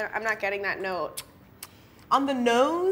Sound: lips and tongue smacking

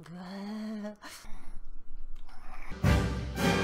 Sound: grunting

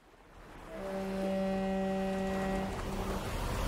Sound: ship honking

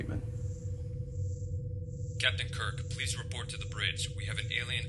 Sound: spock over intercom

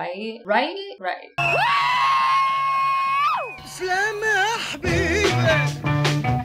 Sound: a completely unhinged sounding but nonetheless sincere 'woo'

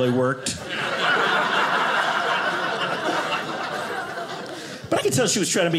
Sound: audience laughing

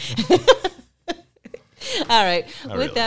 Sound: chuckles

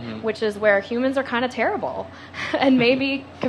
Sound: laughs

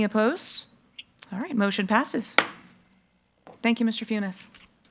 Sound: gavel thuds

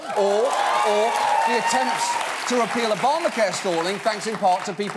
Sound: audience cheers and applauds

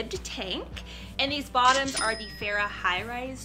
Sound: cash register dings

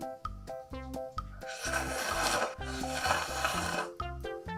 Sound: the sound of eating

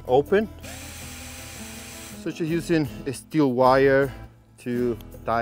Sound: drill whirs

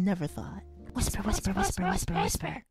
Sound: PB & GB Whispering

